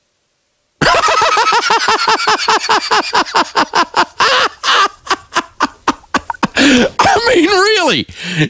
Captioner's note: laughter